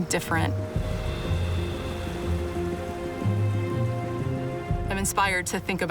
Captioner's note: river flowing